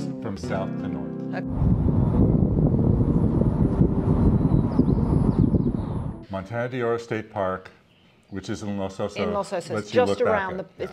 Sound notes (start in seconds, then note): 1.4 wind whipping; 2.1 birds chirping